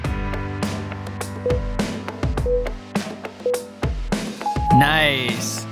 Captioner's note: timer beeping